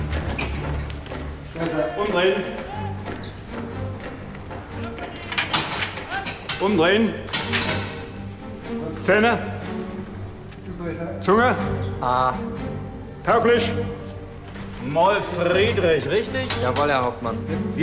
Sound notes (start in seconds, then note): none